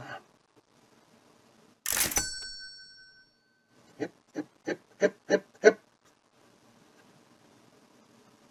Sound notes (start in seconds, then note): 1.8 cash register dings